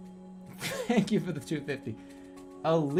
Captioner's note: bursts out laughing